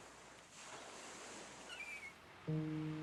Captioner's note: birds chirping